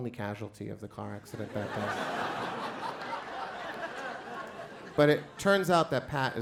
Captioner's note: crowd laughs